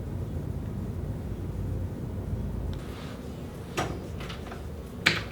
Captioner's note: door closing